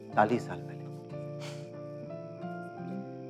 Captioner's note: Laughs